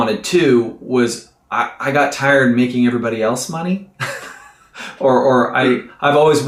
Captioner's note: laughs